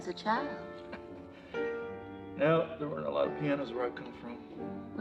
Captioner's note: chuckles